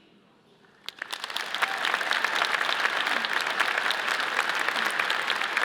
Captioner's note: audience cheers and applauds